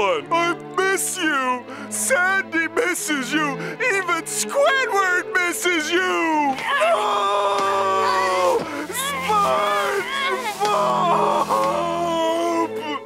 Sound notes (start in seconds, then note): 6.6 crying